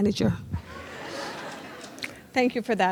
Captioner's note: audience laughs